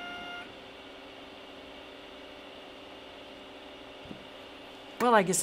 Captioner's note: machine whirs; whirring stops